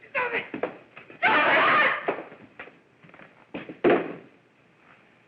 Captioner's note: Blanche yells